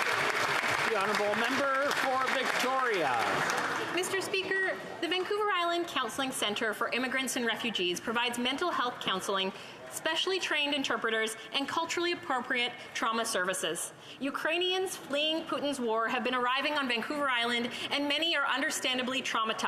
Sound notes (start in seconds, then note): 4.0 applause